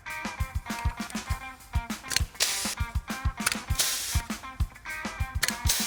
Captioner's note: compressed air hissing